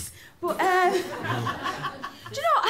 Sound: laughter

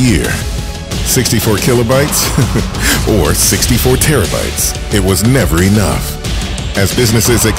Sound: small laugh

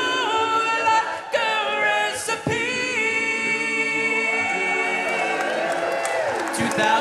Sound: audience cheering

